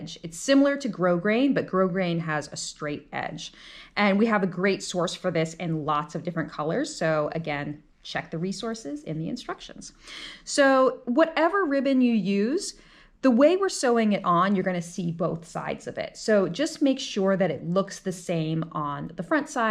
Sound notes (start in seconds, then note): none